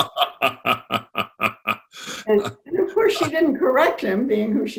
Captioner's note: laughs